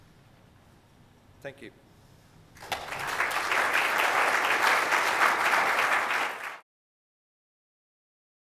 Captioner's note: clapping